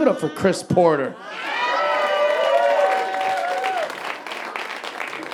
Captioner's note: audience laughing